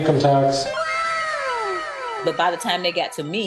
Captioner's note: sparkling sound